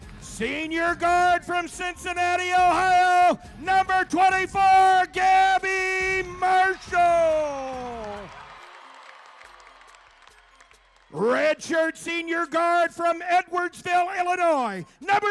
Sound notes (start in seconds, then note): 0.0 crowd cheering; 7.6 crowd cheering